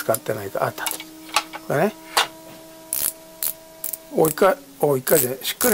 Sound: sound of turning

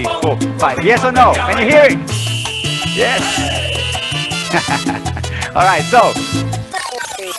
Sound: laughs

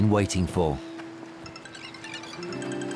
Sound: mobile phone rings

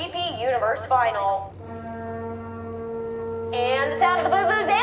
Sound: horn sounds

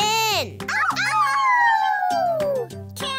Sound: Bluey and Bingo Howling

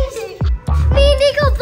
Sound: giggles

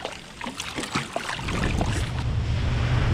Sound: fish splashing; boat engine running

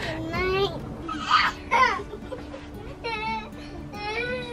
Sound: children giggling

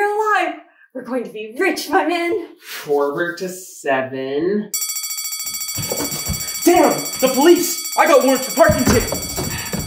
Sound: alarm

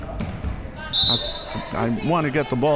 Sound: whistle

